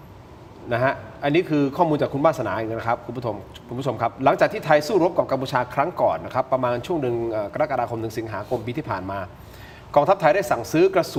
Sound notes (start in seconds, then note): none